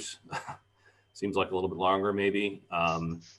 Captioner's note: laugh